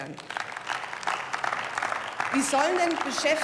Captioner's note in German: Beifall